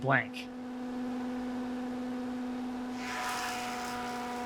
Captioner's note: machine humming